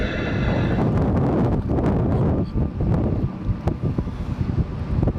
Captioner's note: wind gusts loudly